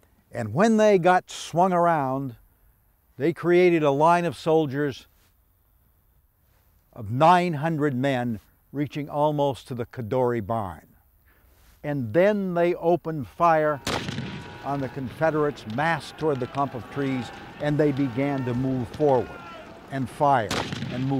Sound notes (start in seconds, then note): 13.6 shells explode